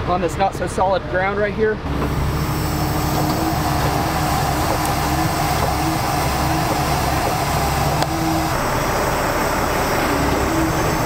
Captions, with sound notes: on this not so solid ground right here. (engine whines)